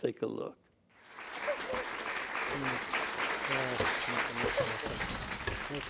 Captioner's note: applause